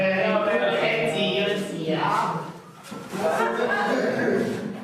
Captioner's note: speaking Kreyol